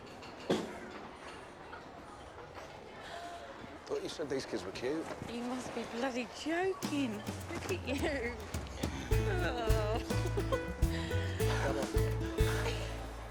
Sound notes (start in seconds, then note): 10.6 laughs